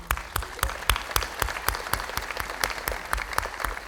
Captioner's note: audience applauding